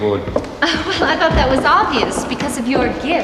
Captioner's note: laughing